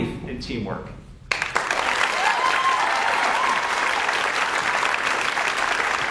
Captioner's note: audience cheers and applauds